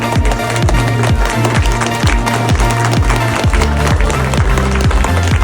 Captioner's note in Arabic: الجمهور يصفق